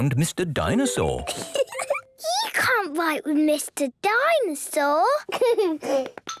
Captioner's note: giggling